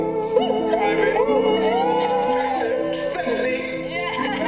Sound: cheering

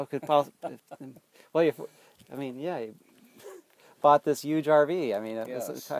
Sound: laughs

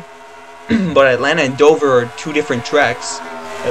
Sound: clears Throat

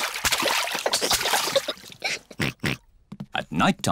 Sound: giggles; oinks

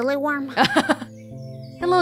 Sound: chuckles

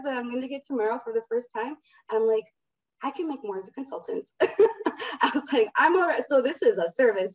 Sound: chuckle

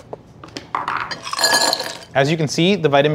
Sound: ice rattling

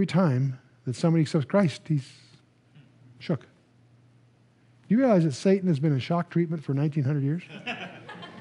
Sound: laughter

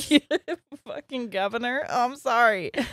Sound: laughing

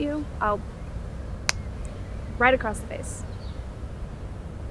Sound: fist thumping

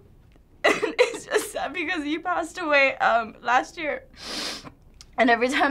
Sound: cries

